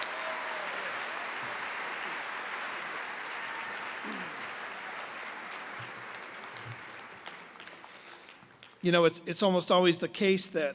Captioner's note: cheers and applause